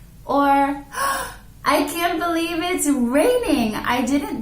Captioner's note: gasping